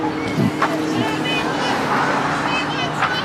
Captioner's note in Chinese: 喇叭聲